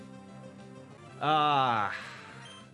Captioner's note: grunts